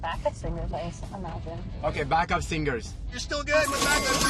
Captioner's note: none